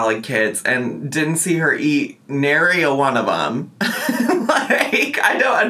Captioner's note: laughing